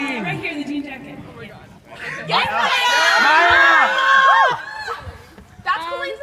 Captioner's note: audience cheers